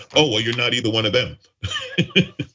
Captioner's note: laugh